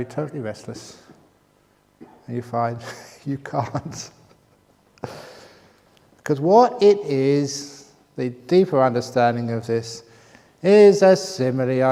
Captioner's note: laughs